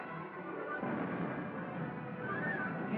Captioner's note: artillery Firing In Distance